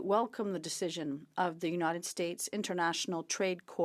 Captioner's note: speaking French